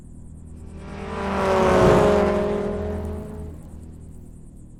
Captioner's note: car engine rumbling